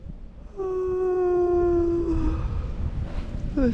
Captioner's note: yawn